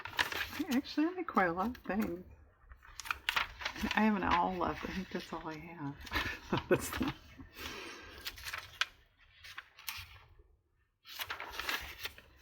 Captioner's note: laughs